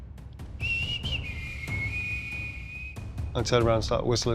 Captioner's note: whistling